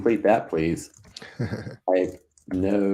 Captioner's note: laughing